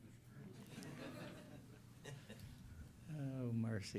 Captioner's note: laughter